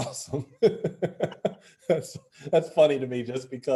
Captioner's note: laughing